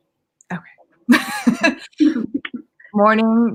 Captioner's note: laughing